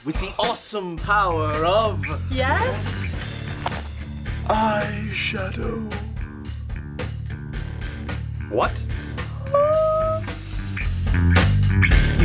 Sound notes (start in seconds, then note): 6.7 grunge rock music; 9.2 Peach makes excited noises